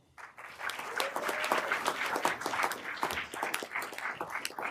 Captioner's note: everyone applauding